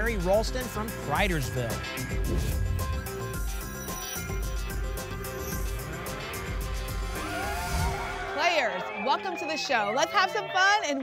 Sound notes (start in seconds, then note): 2.2 whoosh; 7.1 cheering